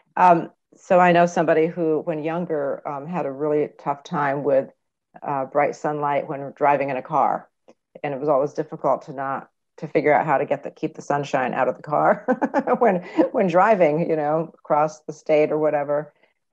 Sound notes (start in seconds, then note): 12.1 laughing